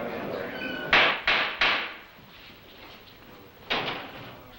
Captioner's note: gavel banging